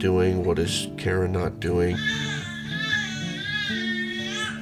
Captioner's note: baby crying